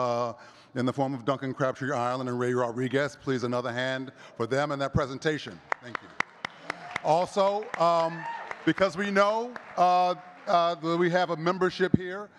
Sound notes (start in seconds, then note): 5.6 audience cheers and claps